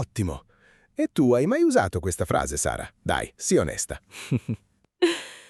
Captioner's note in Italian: risate